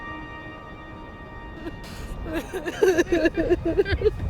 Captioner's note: women weeping